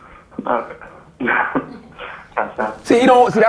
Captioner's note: laughing nervously